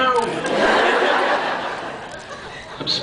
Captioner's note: laughs